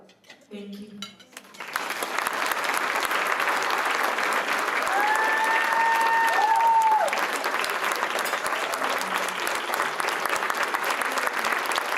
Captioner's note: crowd clapping and cheering